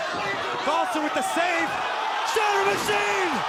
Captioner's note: crowd cheering